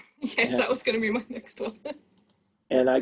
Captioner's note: chuckles